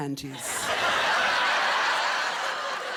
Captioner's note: laughter